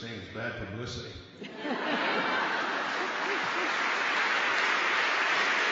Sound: laughter

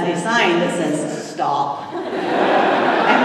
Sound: laughter

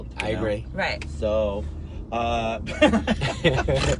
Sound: laughing

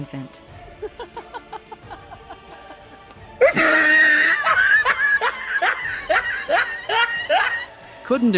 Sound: laughs

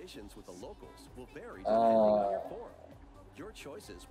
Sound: disgruntled noise

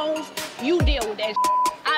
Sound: beep

